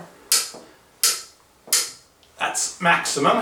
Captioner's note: loud click-click